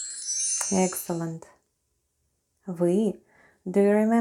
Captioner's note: chime sound